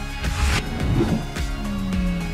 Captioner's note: whooshing sound; upbeat music